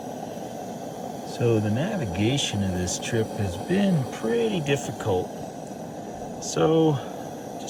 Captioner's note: lantern hissing